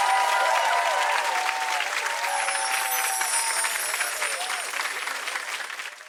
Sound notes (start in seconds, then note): 0.0 tinkling bells over audience continued applause